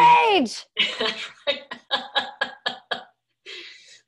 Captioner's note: laughing